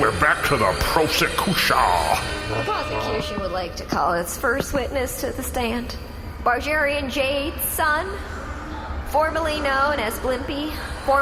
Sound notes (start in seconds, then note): 1.7 airhorns; 2.5 pushing chair back, walking around, back to sexless prosecutor accent